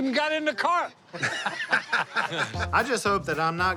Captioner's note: laughter